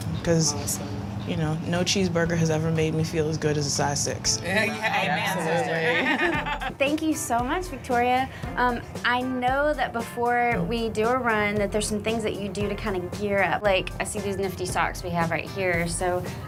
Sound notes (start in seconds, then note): 5.6 laughter